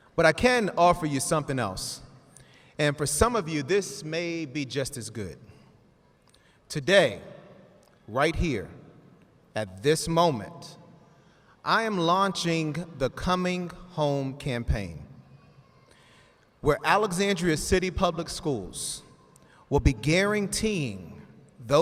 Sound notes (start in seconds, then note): none